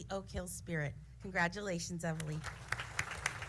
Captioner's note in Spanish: aplausos